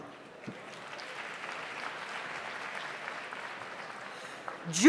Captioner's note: audience applauds